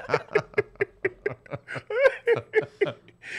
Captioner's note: laughs